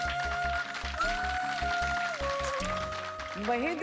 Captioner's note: audience applauding